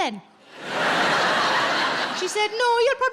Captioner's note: audience laughs